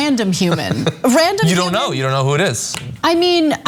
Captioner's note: laugh